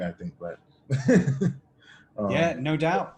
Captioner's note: laughs